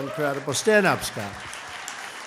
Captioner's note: applause